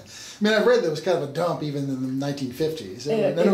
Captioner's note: laughs